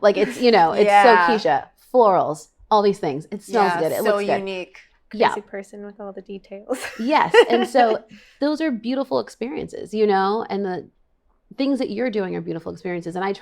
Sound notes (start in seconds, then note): 6.8 laughs